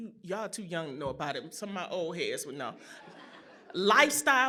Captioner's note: laughter